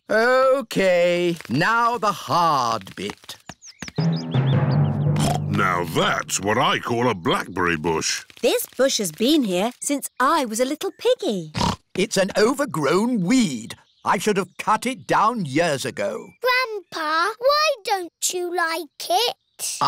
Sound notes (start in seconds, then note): 5.4 snorts; 11.6 snorts